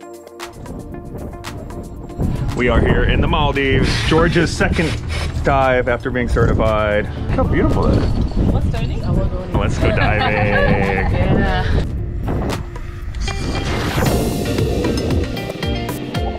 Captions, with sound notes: We are here in the Maldives. George's second dive after being certified. How beautiful is it? (people chattering and laughing) Oh, let's go diving. (upbeat music)